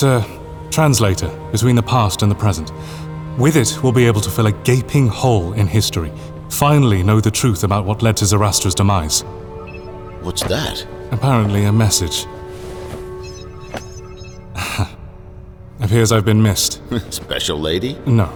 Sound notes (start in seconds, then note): 9.6 digital chime; 13.2 several digital chimes